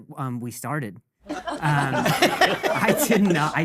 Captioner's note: audience laughing